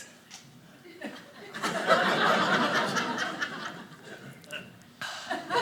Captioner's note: audience laughing